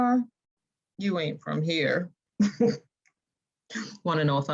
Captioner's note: snickering